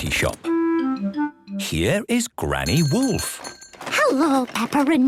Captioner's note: bell jingling